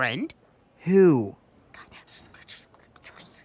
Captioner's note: whispering